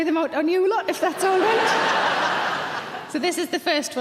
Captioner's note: audience laughing loudly